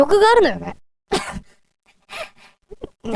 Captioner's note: laughing